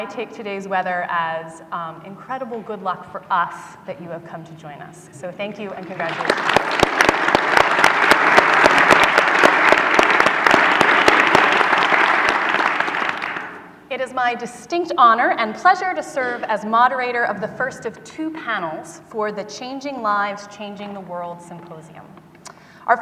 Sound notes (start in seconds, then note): 7.3 audience applause